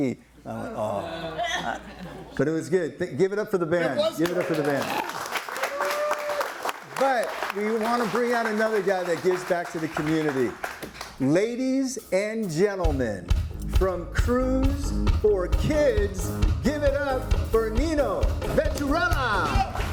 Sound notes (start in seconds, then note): 4.1 audience applauding